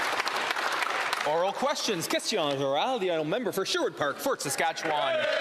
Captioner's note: applause